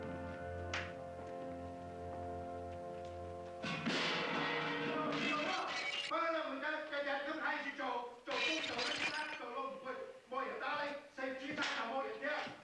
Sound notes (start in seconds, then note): 3.7 pans crashing; 6.9 Hop Sing shouting in Chinese